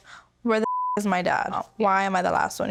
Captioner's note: beep